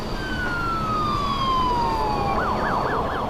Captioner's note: siren and wind